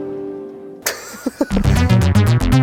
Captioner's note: laughs in northern